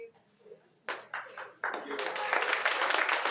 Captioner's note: attendees applauding